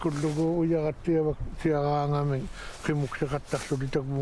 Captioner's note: speaking Inuit